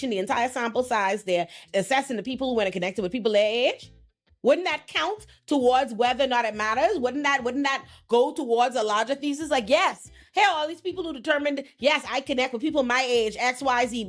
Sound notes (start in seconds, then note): none